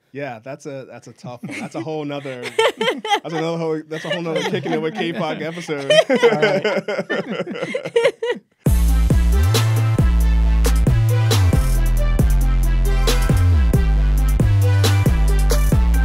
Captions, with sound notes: - Yeah, that's a tough one. That's a whole other Kickin' it with Kapok episode. (loud laughing) (energetic techno music)